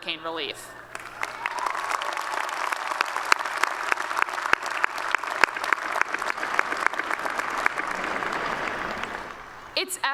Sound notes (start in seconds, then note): 7.8 applause